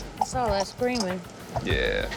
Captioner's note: sputtering